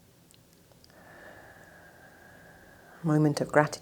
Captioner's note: exhales sharply